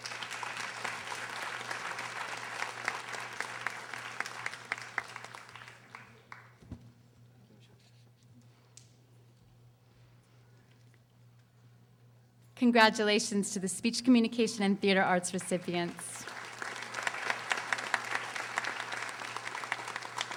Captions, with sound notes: (audience applauding) Congratulations to the Speech, Communication, and Theater Arts recipients. (audience applauding)